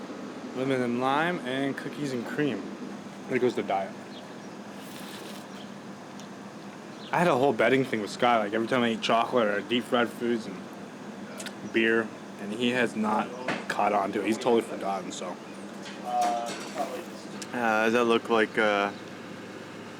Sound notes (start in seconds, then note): none